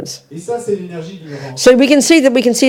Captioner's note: French